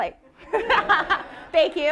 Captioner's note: all laughing